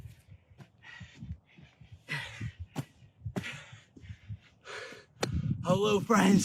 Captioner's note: breathing